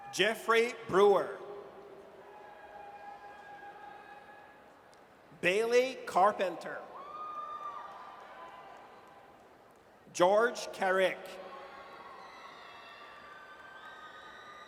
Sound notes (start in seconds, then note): 2.2 audience cheers; 6.9 audience cheers; 11.3 audience cheers